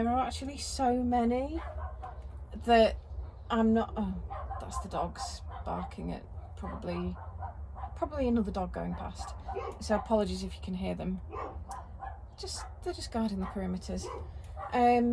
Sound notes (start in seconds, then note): 4.9 barking outside